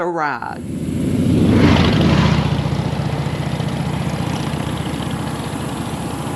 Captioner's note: motorcycle engines revving